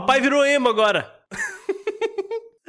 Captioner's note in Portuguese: risos